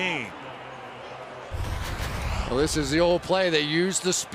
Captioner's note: pa announcement